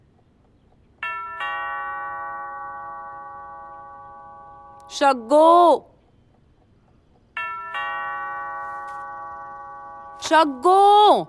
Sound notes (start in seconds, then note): 1.0 Door bell ringing; 7.4 Door bell ringing